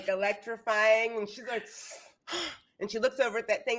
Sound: gasping

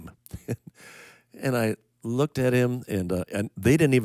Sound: chuckling

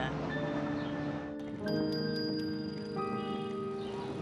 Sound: bicycle bell dinging

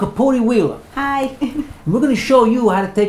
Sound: giggles

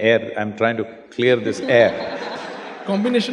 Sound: laughter

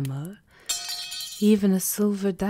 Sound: A metal object clangs to the floor

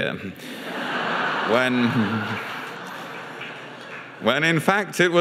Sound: audience laughs

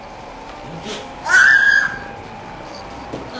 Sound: screams like a little girl

